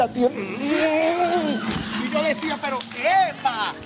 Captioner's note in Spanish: Gritos